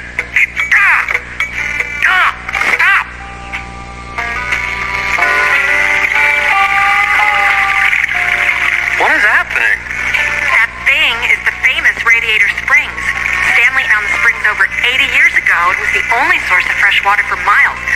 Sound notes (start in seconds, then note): 4.7 water rushing